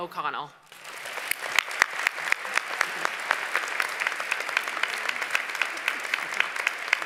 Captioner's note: applause